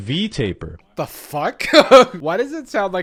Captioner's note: laughs